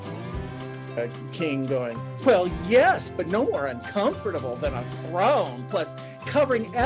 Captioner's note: imitating his partner